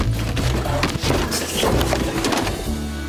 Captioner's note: books fall